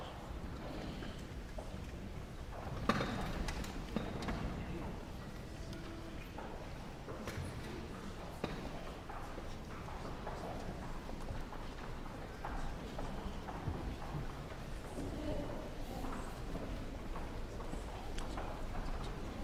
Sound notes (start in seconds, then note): 0.1 guests chattering; 8.4 footsteps tapping